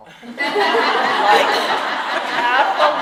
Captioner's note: audience laughing